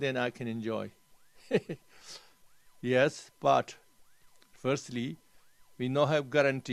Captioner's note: laughs